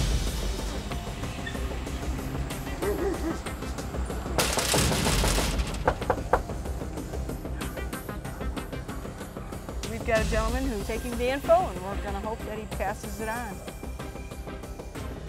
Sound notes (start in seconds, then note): 0.2 soft, intense music; 2.8 dog barking; 4.4 door knocking